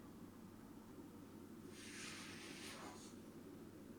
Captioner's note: shuffling